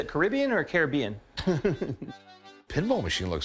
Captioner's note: laughter